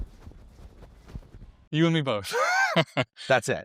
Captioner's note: chuckling